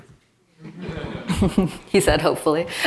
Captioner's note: audience laughs